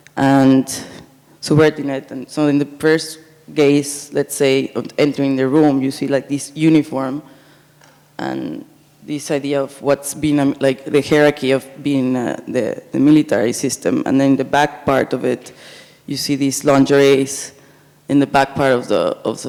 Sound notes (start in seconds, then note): none